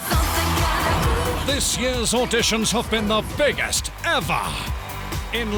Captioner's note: voiceover